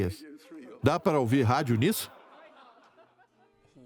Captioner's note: crowd laughing